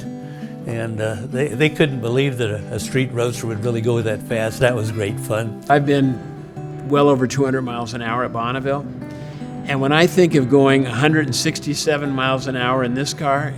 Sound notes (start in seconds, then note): none